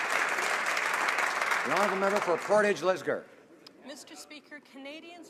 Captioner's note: some Applause